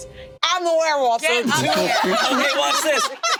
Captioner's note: group laughing